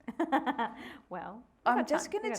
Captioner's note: laughing